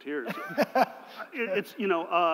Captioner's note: laughter